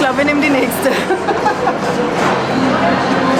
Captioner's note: laughs